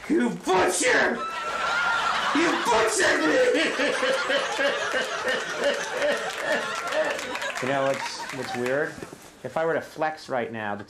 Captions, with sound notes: You butcher! You butchered me! (crying) You know what's weird? If I were to flex right now,